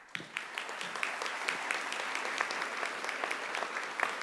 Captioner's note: audience applauding